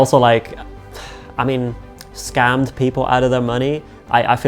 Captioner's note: sighs